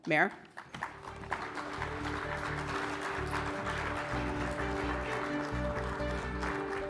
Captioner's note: audience applauding; triumphant music